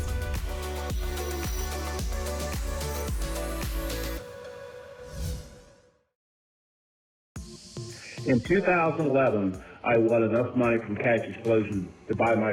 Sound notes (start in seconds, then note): 0.0 whoosh; 5.0 whoosh